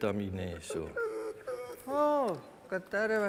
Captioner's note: dog whimpers